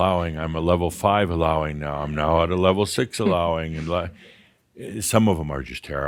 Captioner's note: a few chuckles